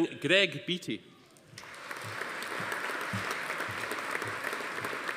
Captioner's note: audience applauding